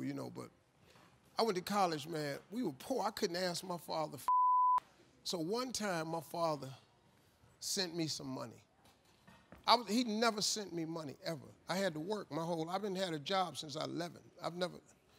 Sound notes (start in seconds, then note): 4.2 beep